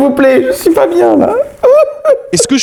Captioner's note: crying